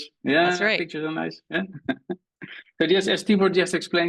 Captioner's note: chuckles